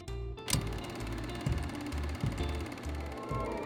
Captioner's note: film reel whirs